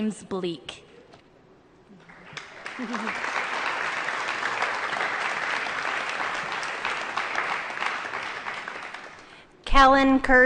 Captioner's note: applause